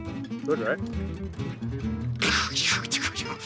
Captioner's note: imitates explosions